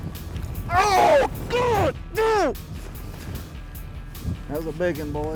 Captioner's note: yells